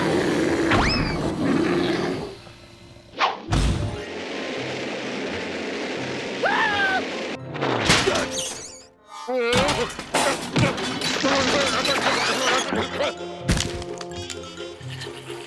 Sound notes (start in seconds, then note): 0.0 bear growling